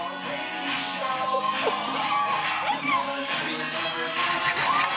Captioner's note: dog whines